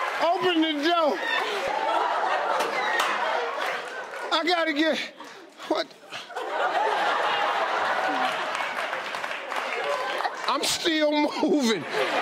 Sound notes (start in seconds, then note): 2.6 audience laughing; 6.1 audience laughing and clapping; 11.9 audience laughing